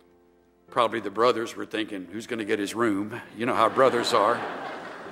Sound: laughter

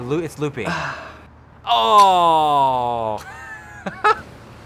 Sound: sigh of disappointment

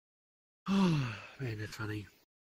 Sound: sigh

